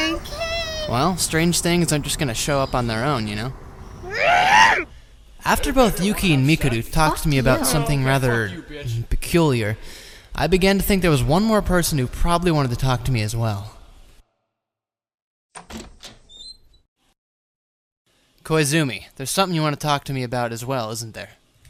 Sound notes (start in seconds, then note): 11.9 background bystanders converse about things; 15.6 boring and non-sexual door opening sound